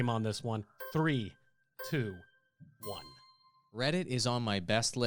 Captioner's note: melodic timer